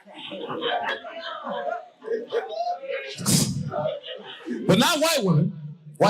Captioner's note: audience cackling